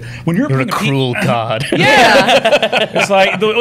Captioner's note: laughter